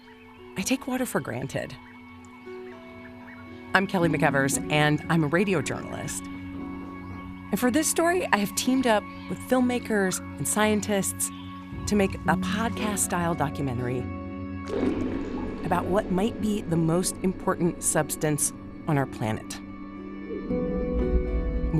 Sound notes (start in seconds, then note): 14.0 drop echoes